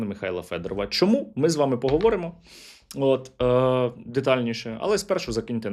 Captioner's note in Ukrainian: сопіння